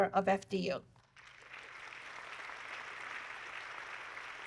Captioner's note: audience clapping